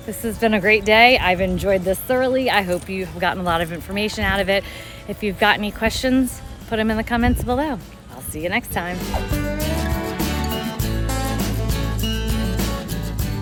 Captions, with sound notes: This has been a great day. I've enjoyed this thoroughly. I hope you have gotten a lot of information out of it. If you've got any questions, put 'em in the comments below. I'll see you next time. (screen whooshes) (upbeat music continues)